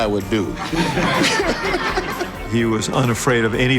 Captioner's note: crowd laughing